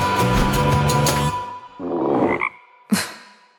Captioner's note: croaks